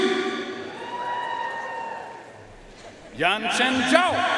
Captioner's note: audience cheering and applauding